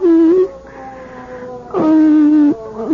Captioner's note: humming